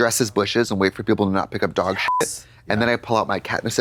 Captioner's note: beep